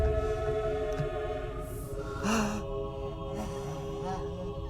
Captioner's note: crying